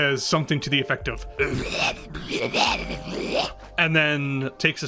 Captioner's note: monster noises